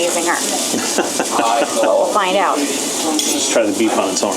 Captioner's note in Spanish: risas